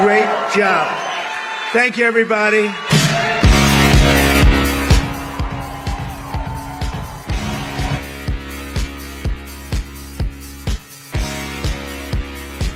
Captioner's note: applause